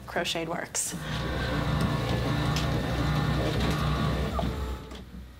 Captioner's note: garage door humming